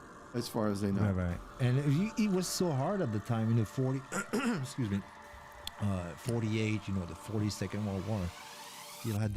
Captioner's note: clearing throat